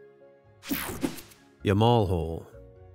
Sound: logo whooshing

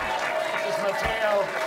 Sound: audience applauds

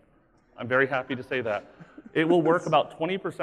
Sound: laughing

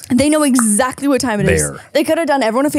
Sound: snapping

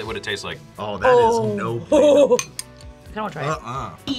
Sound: laughs

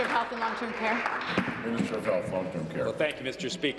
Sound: applause

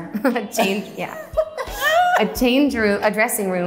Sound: laughs

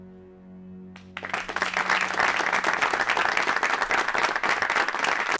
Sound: audience applauding

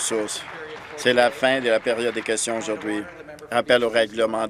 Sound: applause

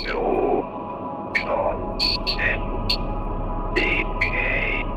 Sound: alien speaking foreign language

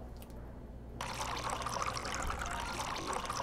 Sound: wine pours; gentle beeping

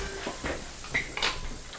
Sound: shop ambient sound

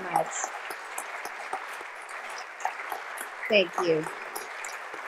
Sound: audience continue to applaud

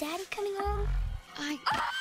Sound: growling

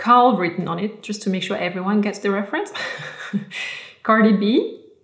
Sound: laughs

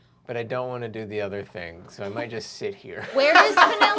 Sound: laughter

